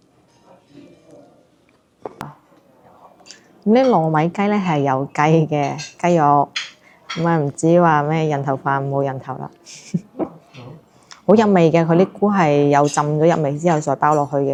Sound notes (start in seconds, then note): 9.6 laughs